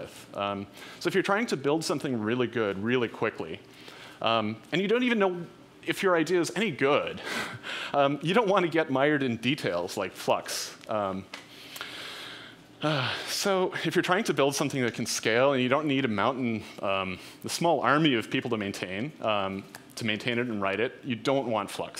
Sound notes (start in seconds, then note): 12.8 sighs